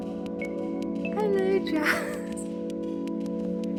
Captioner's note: laughing; chill music